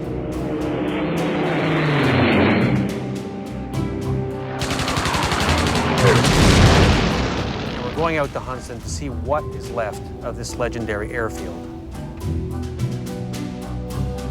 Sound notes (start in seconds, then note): 0.1 jet engine roaring; 4.6 guns firing; 12.0 upbeat music